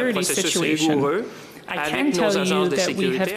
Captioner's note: speaking FRENCH